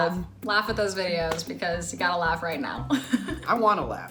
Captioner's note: chuckles